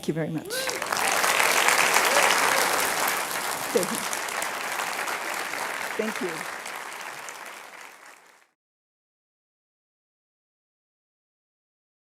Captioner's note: applause and Cheering